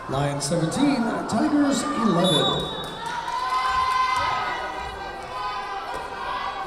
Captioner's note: whistle blowing